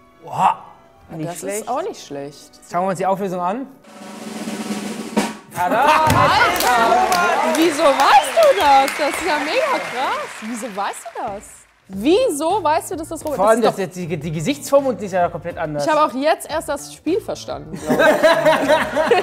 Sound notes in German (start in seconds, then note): 3.8 Trommelwirbel; 6.1 Applaus